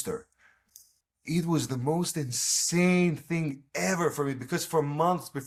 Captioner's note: clicks tongue